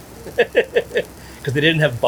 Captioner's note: chuckling